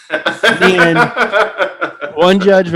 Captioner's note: laughing